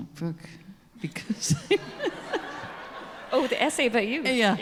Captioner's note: chuckles